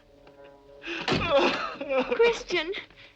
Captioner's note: door bangs; crying